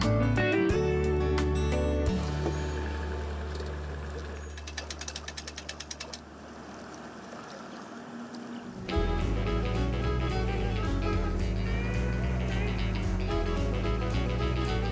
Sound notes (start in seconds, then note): 2.5 engine whirring; 2.5 gentle music fading; 8.9 upbeat music